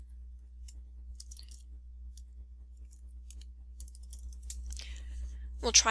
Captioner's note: typing noises